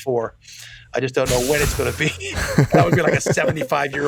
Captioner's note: laughs